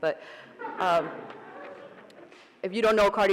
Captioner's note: audience laughing